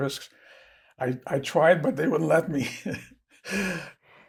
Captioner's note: laughing